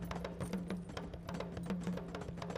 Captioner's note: none